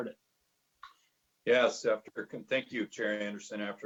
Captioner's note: murmur